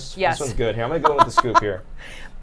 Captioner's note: laughs